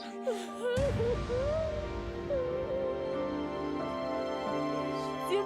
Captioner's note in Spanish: llanto de sara